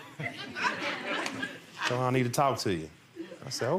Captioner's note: laughing